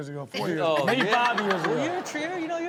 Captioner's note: everyone laughs